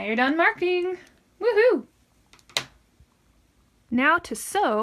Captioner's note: pen hits table